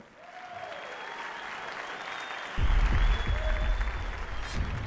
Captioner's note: cheers and applause